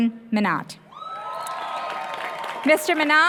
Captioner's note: applause